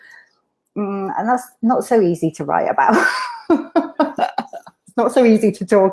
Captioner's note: laughing